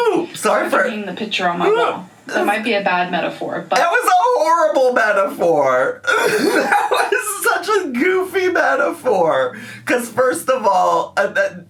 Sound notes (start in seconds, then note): 6.6 laughs